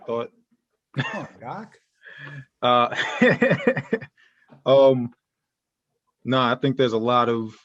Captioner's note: laughter